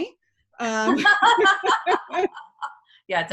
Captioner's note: laughing loudly